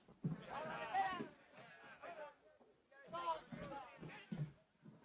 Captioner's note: faint chatter from next room